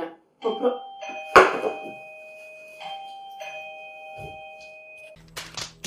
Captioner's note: doorbell